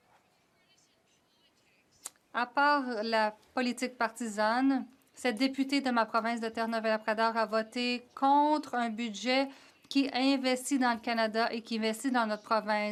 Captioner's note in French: voix de l'interprète